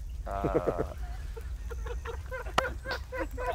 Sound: laughing

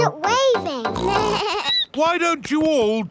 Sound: snorts; bleats

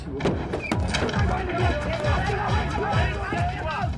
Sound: yelling

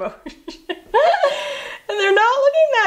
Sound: laughs

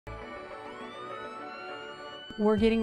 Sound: ambulance siren

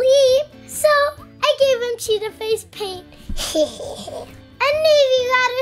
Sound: snickering

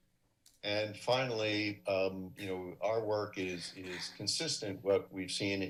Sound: coughs

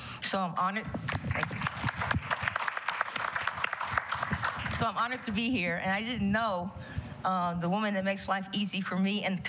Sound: applause

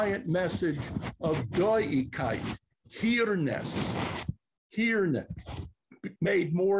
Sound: non-english

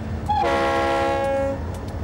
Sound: train whistle blows

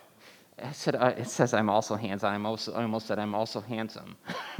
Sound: laughing

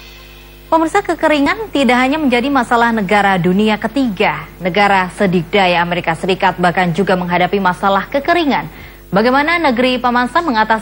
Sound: non-english speech

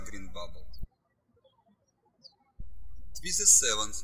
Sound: birds chirping

